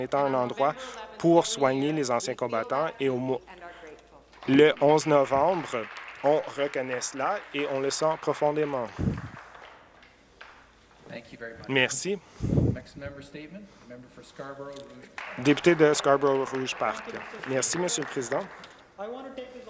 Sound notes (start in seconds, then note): 11.2 some Applause